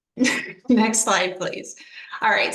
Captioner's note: laughter